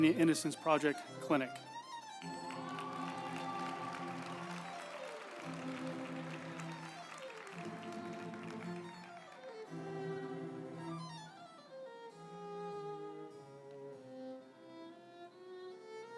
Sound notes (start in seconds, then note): 2.1 group applauding; 2.2 uplifting music